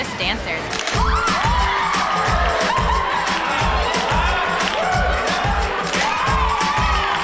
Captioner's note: camera snaps; crowd exclaims